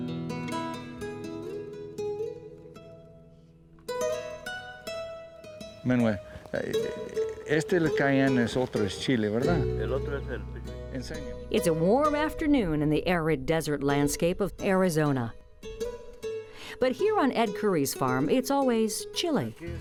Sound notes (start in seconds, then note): 0.0 gentle music; 6.1 speaking Spanish